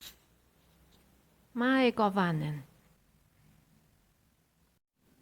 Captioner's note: welcome! in Elvish